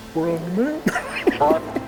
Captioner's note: laughs